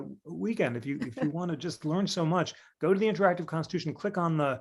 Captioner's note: laughter